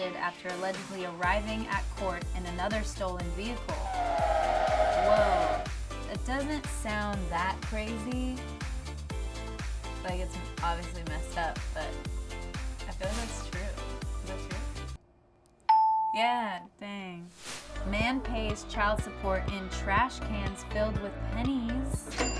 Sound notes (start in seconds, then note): 3.7 car screeches; 15.7 bell dings; 22.2 cash drawer opens